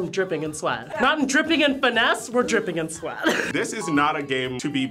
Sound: laughs

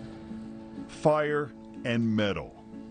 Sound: blow torch firing

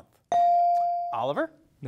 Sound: device dings

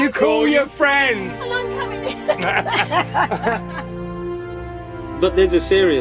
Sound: all laugh

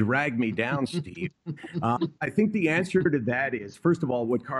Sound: laughter

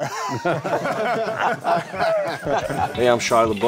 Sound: laughing

